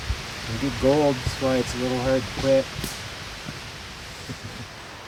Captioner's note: laughter